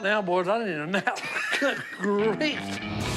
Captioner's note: laughs